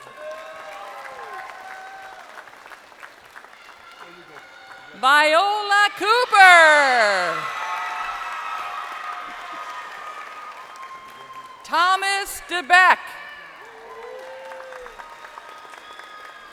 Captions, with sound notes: Benae Collins. (crowd applauding) Viola Cooper. (crowd cheering) Thomas DeBeck.